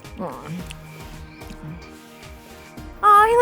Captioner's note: grunting